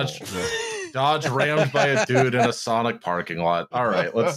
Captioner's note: laughter; laughter